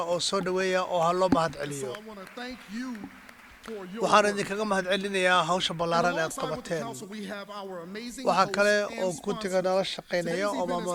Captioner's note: applause